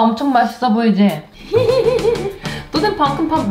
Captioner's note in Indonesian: tertawa